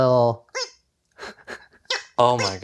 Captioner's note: toy sound